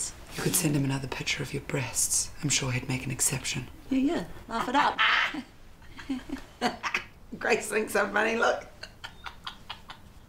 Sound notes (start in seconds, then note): 5.8 laughs; 8.9 cackles